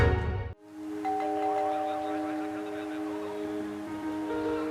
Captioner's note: doorbell ringing